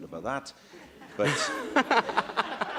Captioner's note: laughter